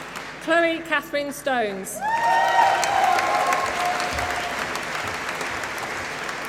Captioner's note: applause